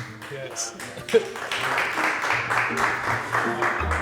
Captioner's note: applause